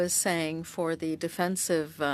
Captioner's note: speaking French